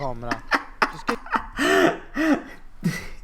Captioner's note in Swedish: Skrattar